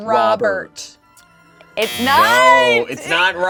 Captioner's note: buzzer buzzes